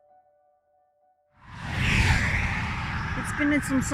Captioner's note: traffic